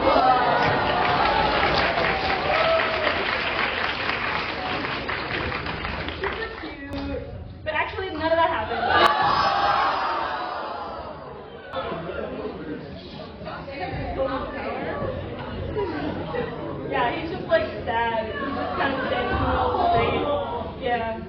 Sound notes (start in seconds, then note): 0.5 applause; 12.3 disappointed/betrayed yelling